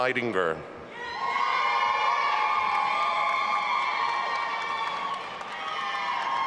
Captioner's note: audience applauding and cheering